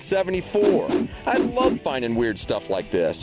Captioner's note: swooshing